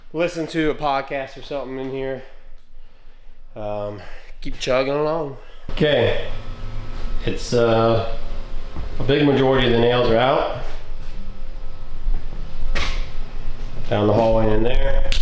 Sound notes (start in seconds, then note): 8.7 drilling